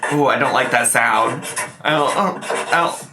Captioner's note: marker scratching